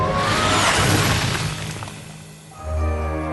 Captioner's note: whoosh; crash